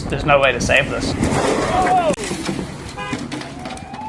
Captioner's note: shouting; car honking; sirens